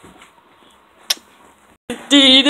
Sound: smooch

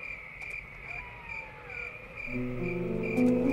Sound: insects chirping; wolf howling; suspenseful music

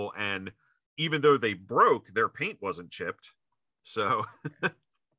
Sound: laughs

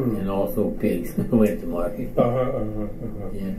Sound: chuckles

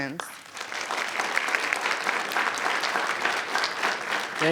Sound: student applauding

